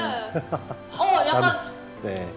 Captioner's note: laughter